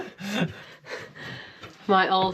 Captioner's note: laughs